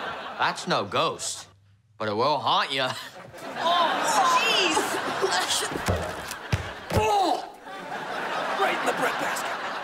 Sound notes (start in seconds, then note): 0.0 laughing; 6.8 moaning